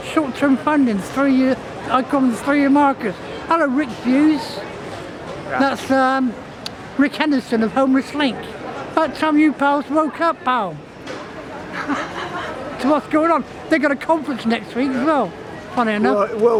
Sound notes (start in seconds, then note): 11.5 laughing